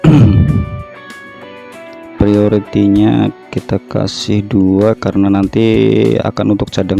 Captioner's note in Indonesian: berdehem